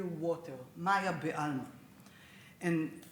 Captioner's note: speaks Hebrew